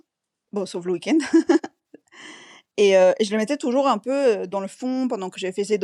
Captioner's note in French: rires